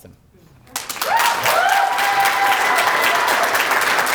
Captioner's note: applause